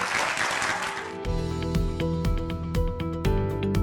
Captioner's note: applause